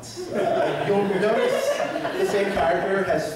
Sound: laughter

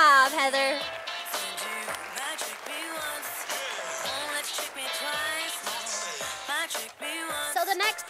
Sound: sound of applause from audience

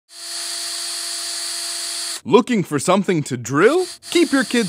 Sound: sound of drill

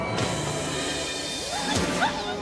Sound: hissing; muffled screaming

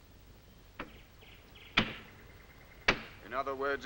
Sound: hammer banging

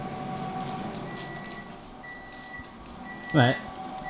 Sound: beeping

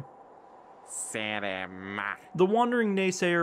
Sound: Tiso speaks bug

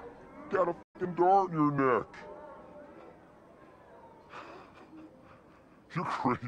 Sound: slowed-down voice

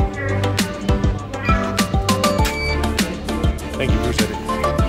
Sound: airport machine beeping

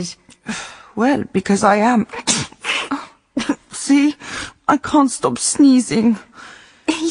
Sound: she sneezes

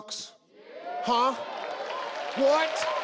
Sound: audience cheering

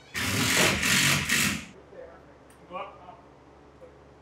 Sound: drill buzzing

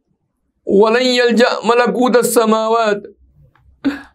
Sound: arabic

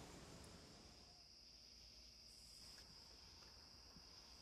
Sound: crickets chirp

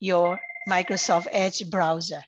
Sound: phone ringing

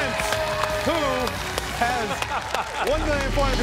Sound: laughing

